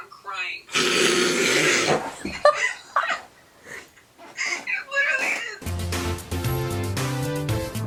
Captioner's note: laughing